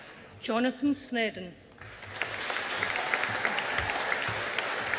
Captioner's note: audience applauding